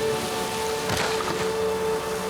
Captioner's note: thump